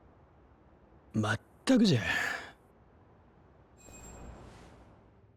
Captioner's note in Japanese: ため息